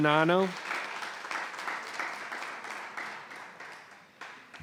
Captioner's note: audience applauds